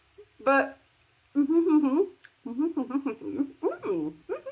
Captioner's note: laughing; happy mouth noises